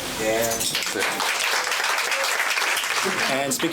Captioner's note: clapping